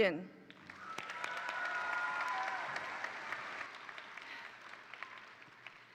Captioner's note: attendees applaud; attendees cheer